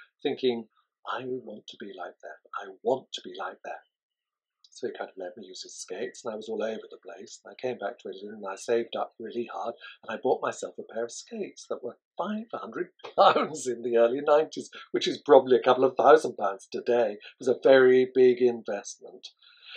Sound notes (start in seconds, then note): 12.8 laughs